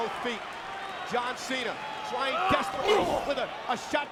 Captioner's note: blow thudding